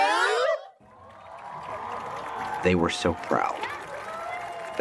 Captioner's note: audience cheers